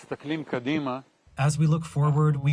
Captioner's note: through translator